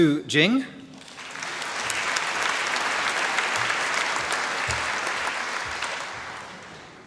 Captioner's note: applause